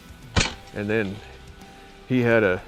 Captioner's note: gun firing